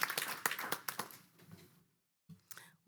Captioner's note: applause